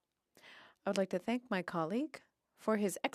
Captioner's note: speaking French